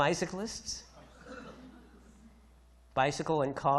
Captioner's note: audience chuckles